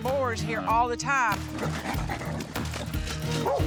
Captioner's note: grunting